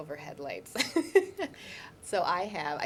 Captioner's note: laughs